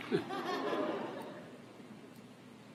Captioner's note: applause